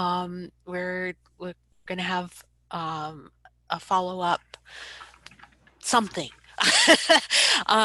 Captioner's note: laughs